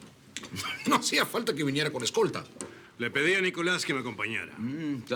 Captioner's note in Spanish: Risas